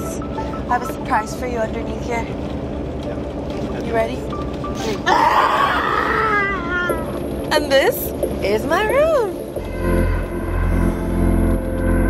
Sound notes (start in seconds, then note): 5.0 screams; 9.2 upbeat music